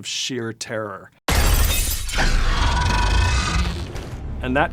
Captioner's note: crash / snarling